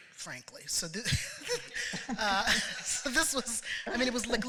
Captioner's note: laughter